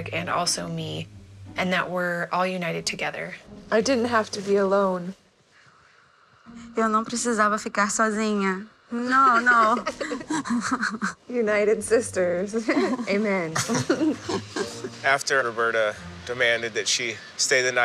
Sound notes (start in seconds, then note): 6.6 non-english speech; 9.4 laughter